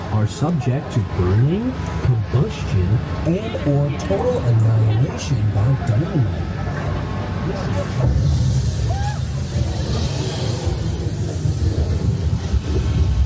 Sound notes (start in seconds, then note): 7.6 air hissing; 8.6 rider screaming; 8.8 earth rumbling; 10.7 air hissing